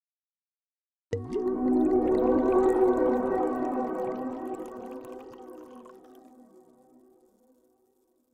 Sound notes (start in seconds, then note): 1.1 bubbling; 1.2 gentle music; 6.1 fizzing